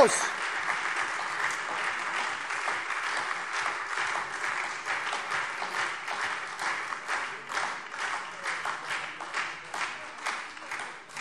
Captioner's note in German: Beifall SPD und Freie Demokraten